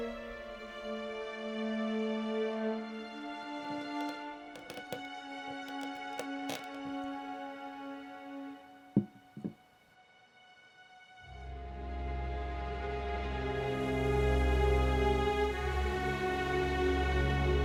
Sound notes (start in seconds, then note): 4.5 crunching; 11.4 ominous orchestral music